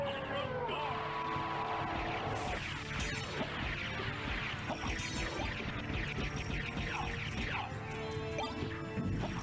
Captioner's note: applause